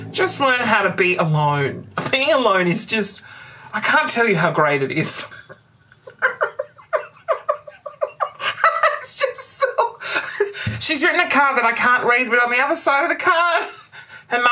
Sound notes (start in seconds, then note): 5.9 muffled laughter